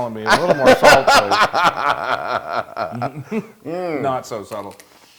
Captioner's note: laugh